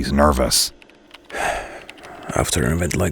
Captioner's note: Wildcard exhales